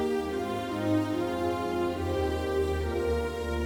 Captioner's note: none